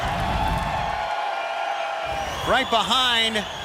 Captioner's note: crowd cheering